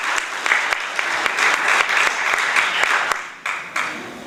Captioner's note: applause